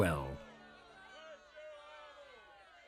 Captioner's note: cheering people